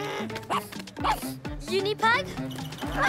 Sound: huffs; barks

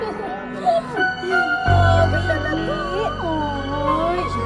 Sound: women cooing at the baby

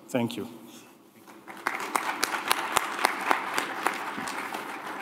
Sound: applause

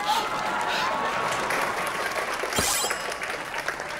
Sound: clapping

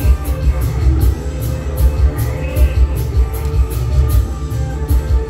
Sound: Admiral Orc laughs; Admiral Orc Speaks Gibberish

